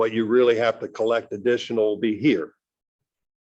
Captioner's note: none